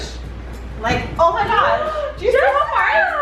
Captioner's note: gasping